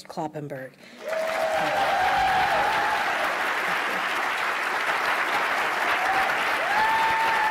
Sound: cheering and clapping

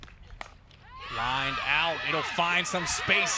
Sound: ball hitting bat

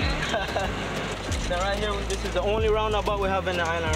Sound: laughs

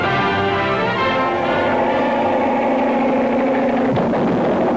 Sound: plane roaring; explosion booms

